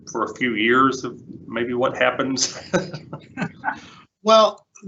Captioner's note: laughs